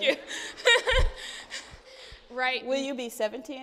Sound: audience laughing

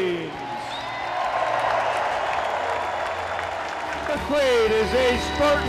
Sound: audience cheers and applause

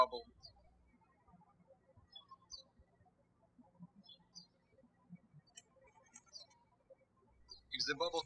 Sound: birds chirping

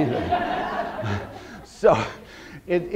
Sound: audience laughter

